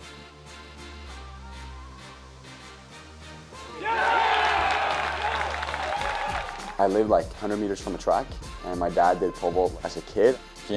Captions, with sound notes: [CHEERING, APPLAUSE] I live like 100 meters from a track, and my dad did pole vault as a kid.